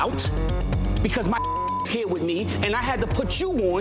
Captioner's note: beep